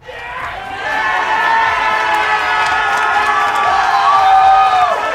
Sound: cheering

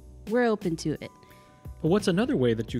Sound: none

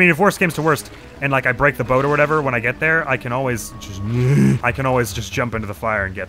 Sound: panicked sound

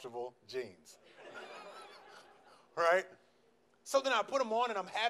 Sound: laughs

